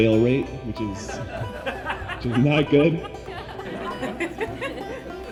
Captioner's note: audience laughing